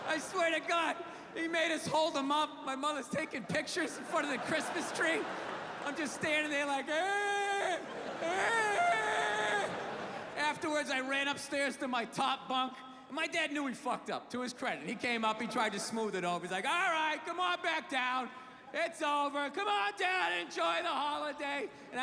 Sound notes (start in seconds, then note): 8.2 crying